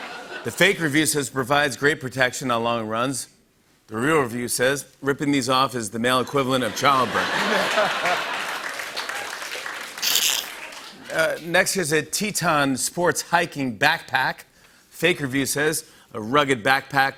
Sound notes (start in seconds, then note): 0.0 laughter; 6.4 laughter and applause